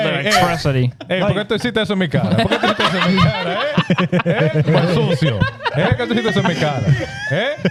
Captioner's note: speaking In Foreign Language